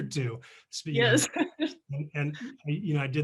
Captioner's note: laughing